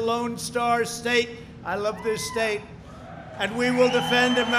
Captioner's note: applause